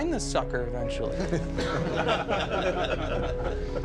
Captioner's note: laughter